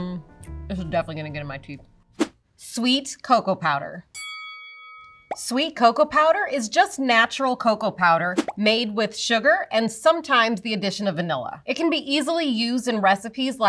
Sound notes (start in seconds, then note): 4.1 bell dings